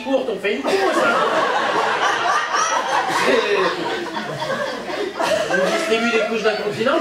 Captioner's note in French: rires public